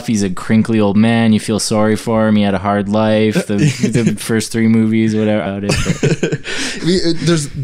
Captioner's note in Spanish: risas